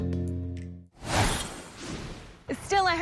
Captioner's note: logo whooshing